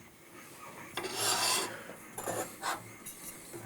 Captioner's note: grinding noise